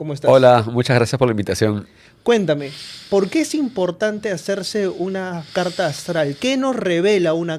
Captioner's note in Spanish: resoplido